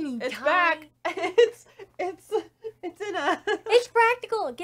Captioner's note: chuckling